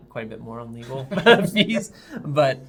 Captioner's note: laughing